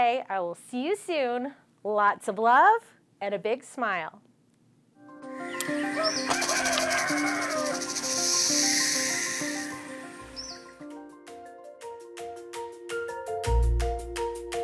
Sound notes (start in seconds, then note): 5.0 bright music; 5.4 animals chittering; 11.2 upbeat music